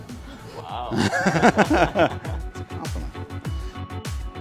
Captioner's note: laughs